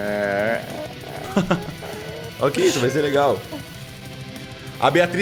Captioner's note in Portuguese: Risada